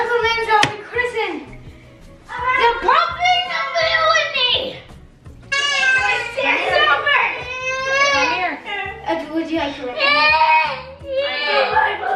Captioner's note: excited balloon popping conversation